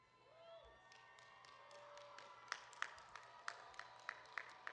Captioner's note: audience cheering